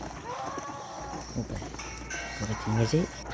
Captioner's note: sounds of weapon inventory